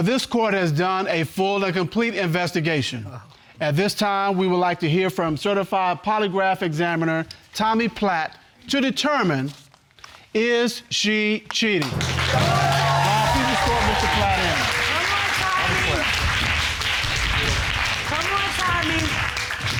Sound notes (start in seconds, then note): 11.9 cheering